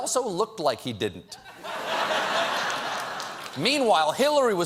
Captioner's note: laughter